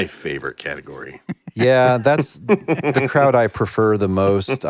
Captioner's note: laughs; laughter